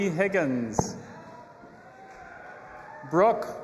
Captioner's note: audience applauding and cheering